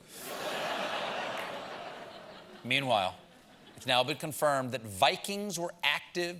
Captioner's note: laughter